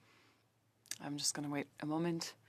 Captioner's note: speaking French